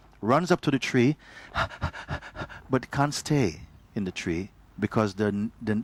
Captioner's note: panting